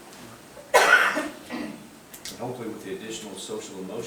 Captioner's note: woman coughing